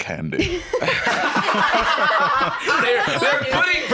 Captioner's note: laughing